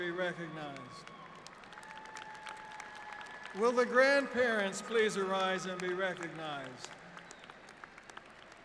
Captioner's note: applause